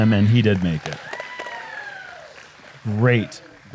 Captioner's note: applause